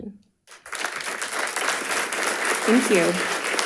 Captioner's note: audience applauding